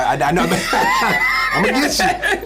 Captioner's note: laughs